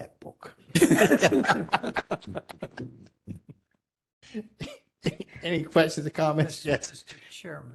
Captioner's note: laughter